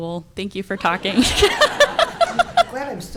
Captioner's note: audience laughing